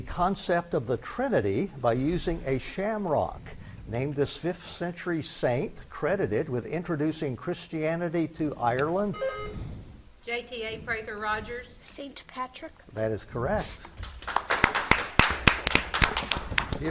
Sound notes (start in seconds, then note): 9.1 buzzer beeps; 13.8 spectators clap